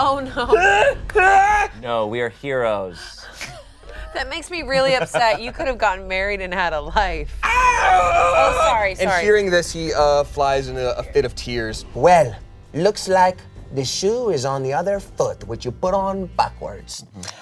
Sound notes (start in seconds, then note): 3.8 all laugh; 7.4 yells